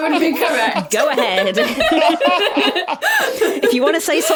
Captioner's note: laugh